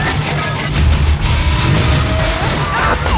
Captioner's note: engine starting; screams